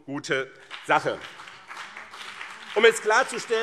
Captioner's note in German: Beifall BÜNDNIS 90/DIE GRÜNEN und CDU